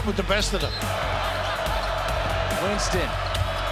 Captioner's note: crowd cheering